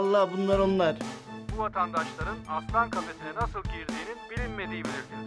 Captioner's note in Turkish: Televizyon ses